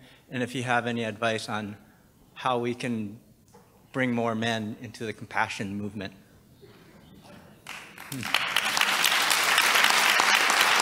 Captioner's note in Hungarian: taps